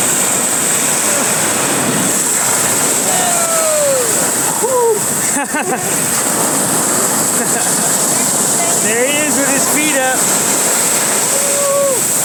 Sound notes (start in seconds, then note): 1.8 splashes into the water; 4.6 laughs